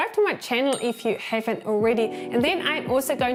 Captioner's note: bell ringing